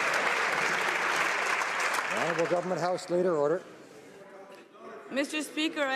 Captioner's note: some Applause